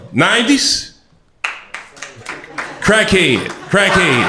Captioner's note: light clapping; crowd laughter